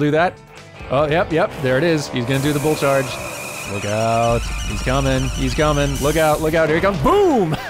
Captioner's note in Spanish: silbido de tetera; risas